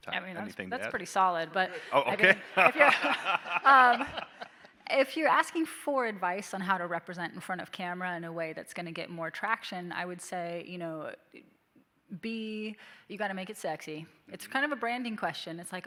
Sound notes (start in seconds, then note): 1.7 audience laughing